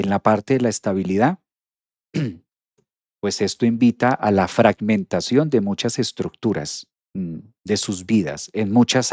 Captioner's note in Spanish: carraspeo